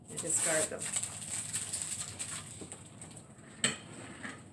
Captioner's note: crackling tape sound